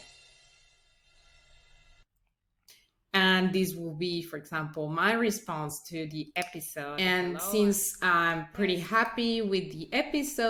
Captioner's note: audio recording playing